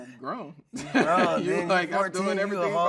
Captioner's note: laughing